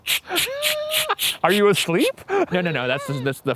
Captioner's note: laughing; mimicking a spirit box buzzing